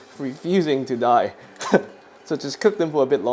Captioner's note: chuckles